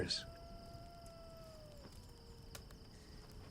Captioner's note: coyote howling in distance